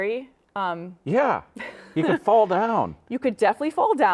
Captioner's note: laughing